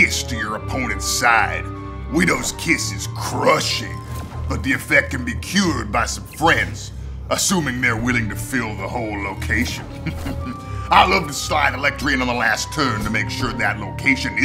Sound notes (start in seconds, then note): 8.5 sneers